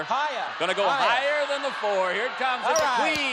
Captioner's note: audience yells